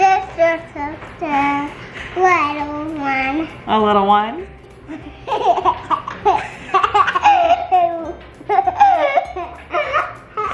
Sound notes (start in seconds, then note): 0.1 babbles; 4.8 giggling